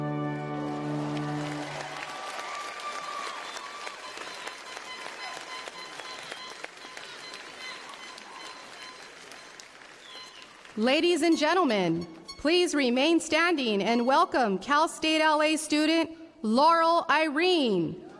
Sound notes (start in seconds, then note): 2.2 applause